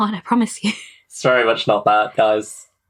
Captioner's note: laughs